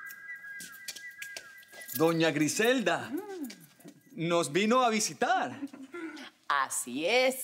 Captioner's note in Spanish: Silbidos